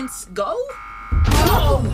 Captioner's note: crash!